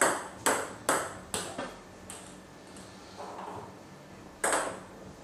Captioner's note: balls ping pong hitting continues